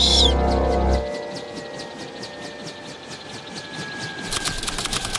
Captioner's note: helicopter blades whirring; typewriter clicking